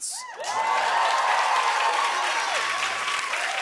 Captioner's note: cheers and applause